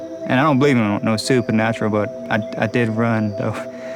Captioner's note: laughs